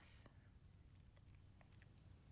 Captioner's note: whispering